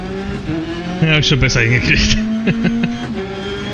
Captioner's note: laughs